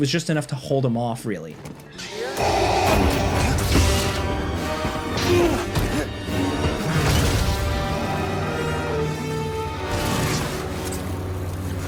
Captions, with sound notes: It was just enough to hold him off, really. (sabers crashing) (dramatic music)